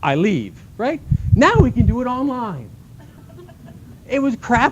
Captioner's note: laughter